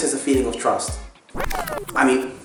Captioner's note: rewind sound effect